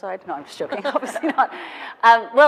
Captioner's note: laughing